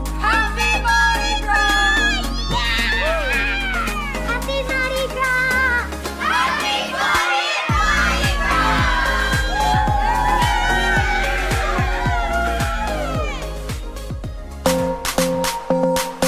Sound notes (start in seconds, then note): 9.5 cheering